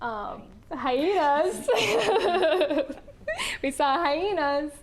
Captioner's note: laughing